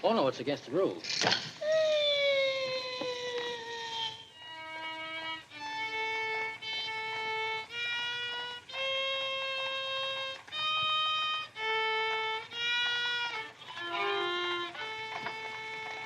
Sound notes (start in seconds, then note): 1.4 screech; 4.2 off-tune violin music